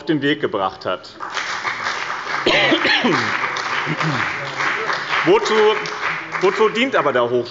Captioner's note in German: Beifall bei dem BÜNDNIS 90/ DIE GRÜNEN und der CDU